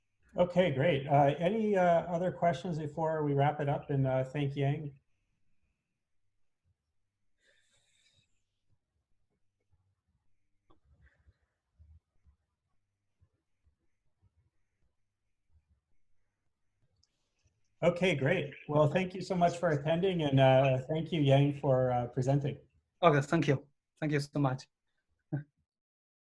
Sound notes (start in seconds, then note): 5.2 silence